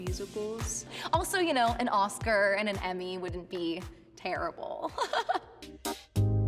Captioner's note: giggles